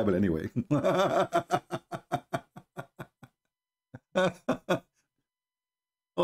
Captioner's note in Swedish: Skratt